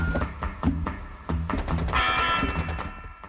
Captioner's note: rapid gunfire banging